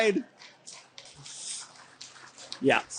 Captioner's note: audience applauding